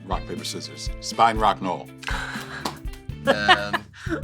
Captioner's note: laughs